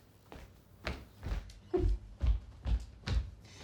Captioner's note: chuckling